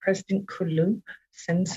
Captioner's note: speaking Alternative Language